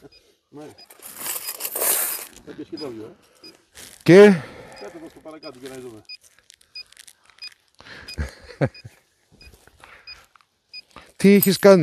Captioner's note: laughs